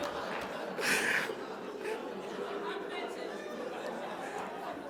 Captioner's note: audience applauding; laughs